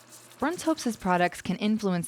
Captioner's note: voiceover